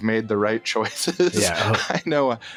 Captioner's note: uncertain laughter